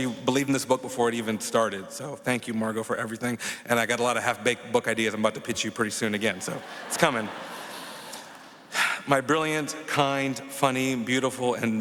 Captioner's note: applause